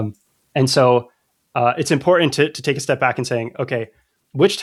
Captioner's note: uh